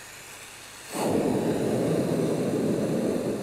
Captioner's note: roaring